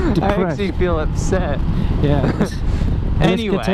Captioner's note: laughing; laughing